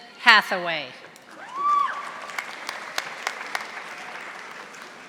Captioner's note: audience applauding